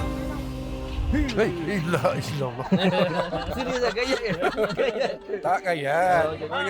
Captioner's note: laugh